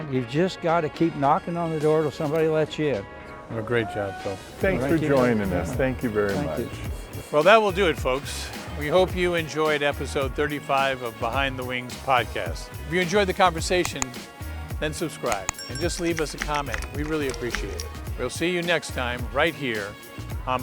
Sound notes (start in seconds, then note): 15.2 keyboard clanking; 15.4 bell chiming